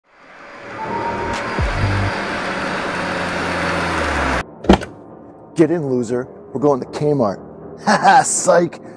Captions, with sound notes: *car door opens* Get in loser! We're going to K-Mart Ha ha! Sike!